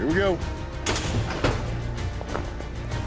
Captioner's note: chute opens